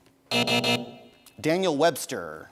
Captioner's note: buzzing